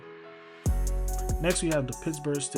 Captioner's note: voiceover